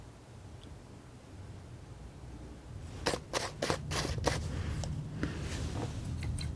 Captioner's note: scratching